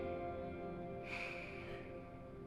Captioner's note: sigh